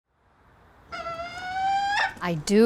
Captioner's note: hawk caws